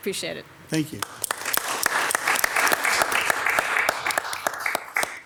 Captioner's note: everyone applauds